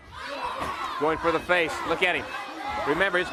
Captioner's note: crowd cheering